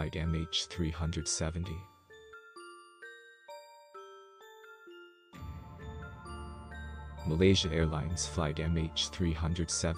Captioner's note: voice-over